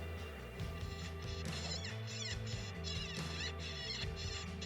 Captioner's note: coyote calls